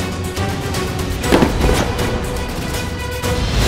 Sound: box falls

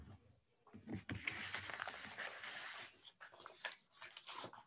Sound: paper rustling

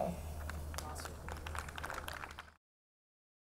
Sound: audience clapping

